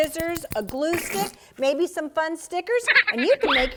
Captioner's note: silly laugh